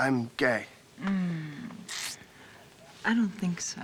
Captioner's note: moans